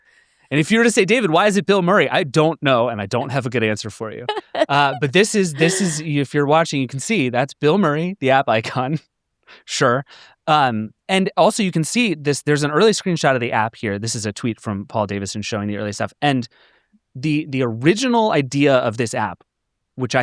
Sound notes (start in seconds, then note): 4.2 chuckling; 9.2 chuckles